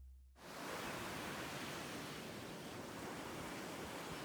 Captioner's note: ocean waves